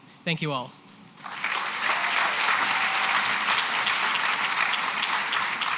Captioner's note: applause